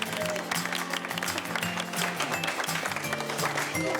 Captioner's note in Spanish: Aplausos